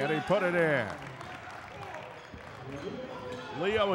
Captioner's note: clapping; yelling